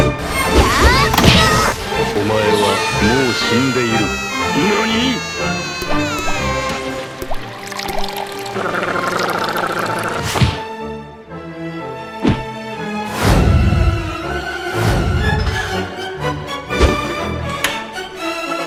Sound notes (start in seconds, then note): 10.4 Sound of throwing book "อย่าขับอย่างเดียว"